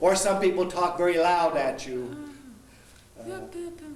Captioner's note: speaking loudly